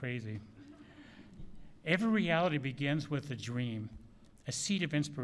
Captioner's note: laughter